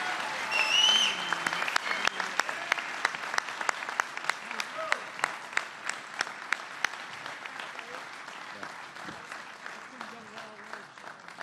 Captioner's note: applause